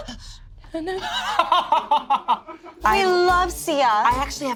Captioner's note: Abby laughing